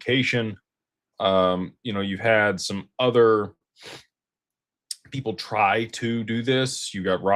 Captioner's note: snorts